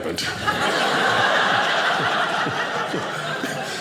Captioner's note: audience laughing